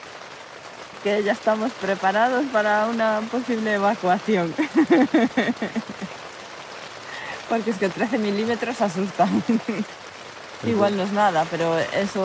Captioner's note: laughs